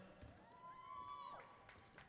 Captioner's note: applause